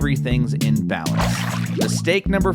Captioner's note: water splashes